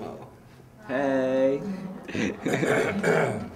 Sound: clears throat

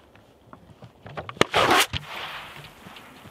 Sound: pfwoosh!

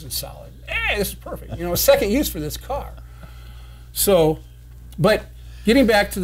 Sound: chuckling

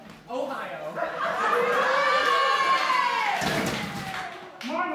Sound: laughter

